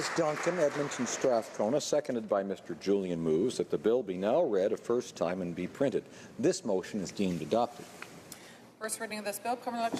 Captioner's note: applause